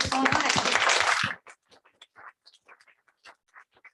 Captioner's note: applause